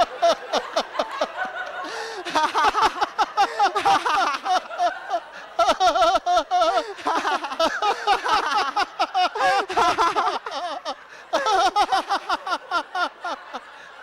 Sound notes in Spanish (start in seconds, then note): 0.2 risas; 8.1 Mooji, el interlocutor y la sangha siguen riendo